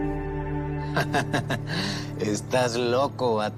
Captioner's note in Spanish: Nébula ríe